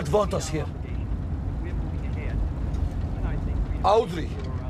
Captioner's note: man speaking on radio